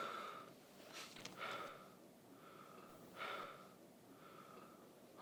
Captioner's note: boxer breathing heavily